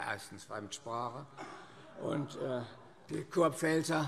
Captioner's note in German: Zuruf: Na, na, na - Heiterkeit